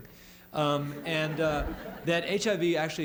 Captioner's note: laughter